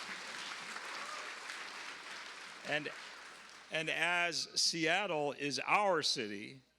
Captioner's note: cheers and applause